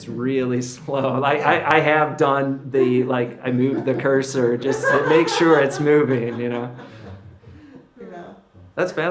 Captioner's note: laughter